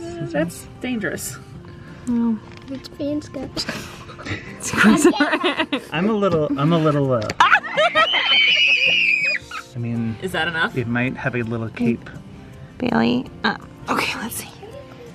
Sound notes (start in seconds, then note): 3.9 everyone Laughs; 7.8 everyone Screams